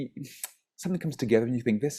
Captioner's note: sighs